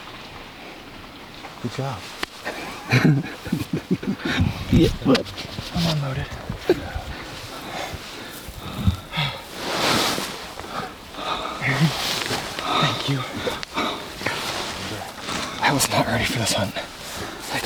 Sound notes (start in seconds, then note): 2.4 chuckles